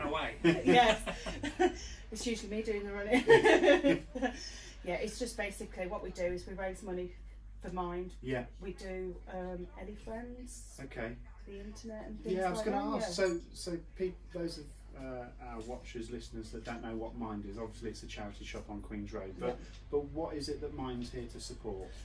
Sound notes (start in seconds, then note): 3.1 laughter